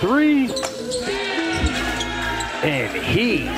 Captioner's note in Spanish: vítores del público